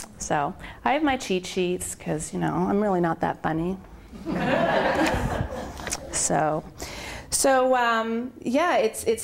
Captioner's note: laughter